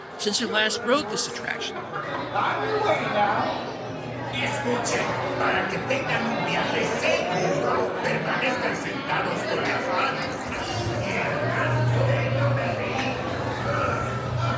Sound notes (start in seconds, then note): none